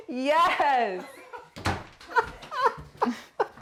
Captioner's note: laughter